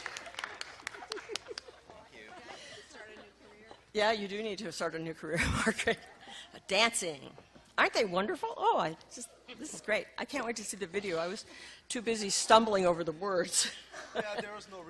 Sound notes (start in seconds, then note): 0.7 laughing